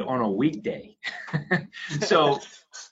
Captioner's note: laughs